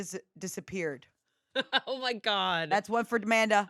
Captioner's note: laughs